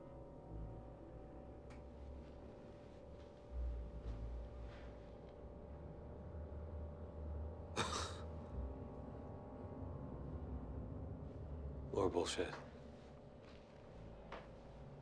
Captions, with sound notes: (chuckling) More bullshit.